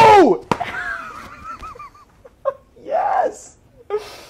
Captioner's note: laughs